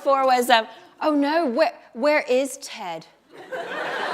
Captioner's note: laughter